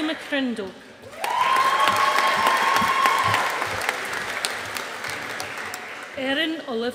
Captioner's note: audience applauding